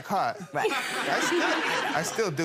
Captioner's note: people laughing